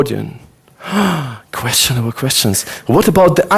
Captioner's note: gasps